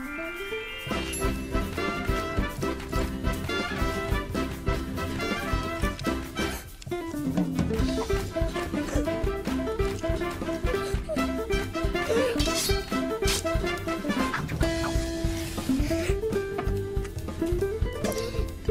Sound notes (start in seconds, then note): 6.0 gasps; 8.6 gasps; 10.1 crying; 10.4 gasps; 17.3 gasps